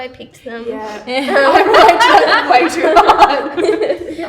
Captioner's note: laughs